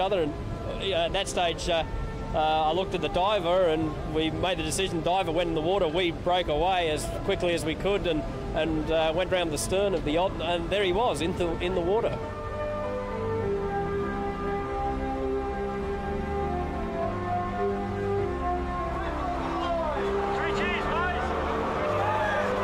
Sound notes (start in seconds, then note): 12.8 elated music; 19.0 crew cheering